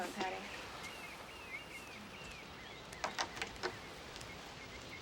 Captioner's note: birds chirping